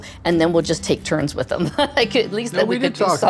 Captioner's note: chuckling